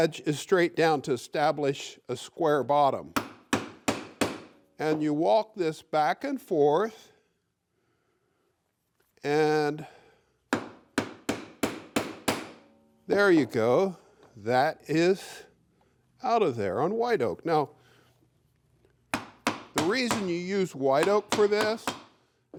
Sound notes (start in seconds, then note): 3.1 hammer hitting; 10.5 hand tool hammering